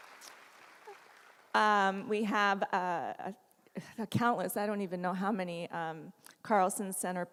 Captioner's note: applause